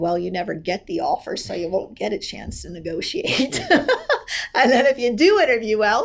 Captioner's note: laughs